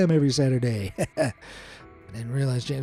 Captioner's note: chuckles